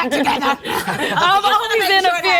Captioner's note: laughs